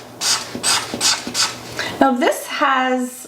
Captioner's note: marker scratching